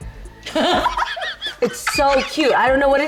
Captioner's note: laughs